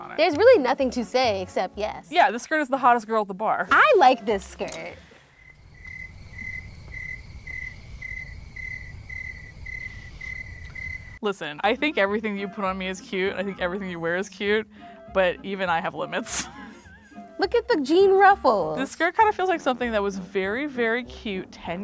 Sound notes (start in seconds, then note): 5.1 crickets chirping; 16.3 laughs